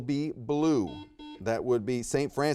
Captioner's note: buzzer beeps